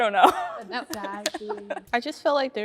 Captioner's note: laughing